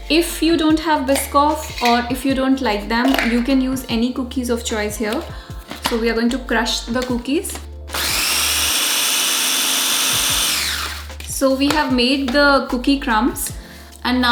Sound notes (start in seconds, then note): 7.9 blender sound